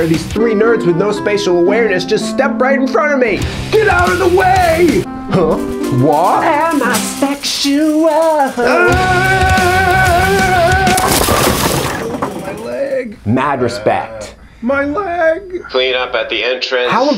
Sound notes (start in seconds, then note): 8.9 yelling; 10.1 intense rock music; 11.4 bowling pins clattering